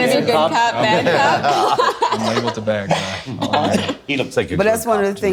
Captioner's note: laughing